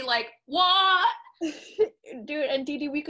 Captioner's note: laughs